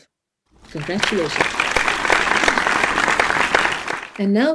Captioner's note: audience applauds